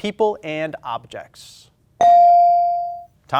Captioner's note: ding chimes